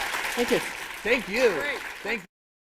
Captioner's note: applause